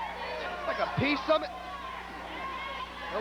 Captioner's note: crowd chatter